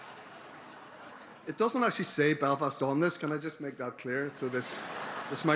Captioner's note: laughter